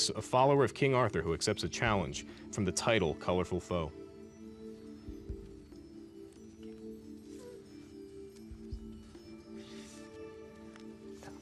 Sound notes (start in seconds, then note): 5.8 whispering